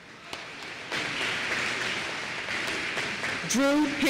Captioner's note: applause